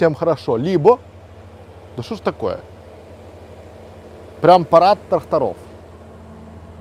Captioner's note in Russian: звук трактора